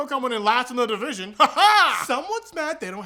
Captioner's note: weird laughing